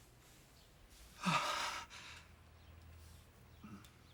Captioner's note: sighs